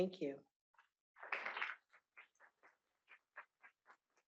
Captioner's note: applause